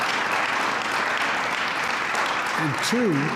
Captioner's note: applause